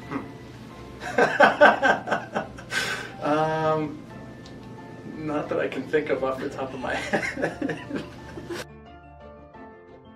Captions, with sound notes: [laughter] Not that I can think of, off the top of my head [laughter]